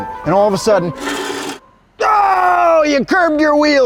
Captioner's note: grinding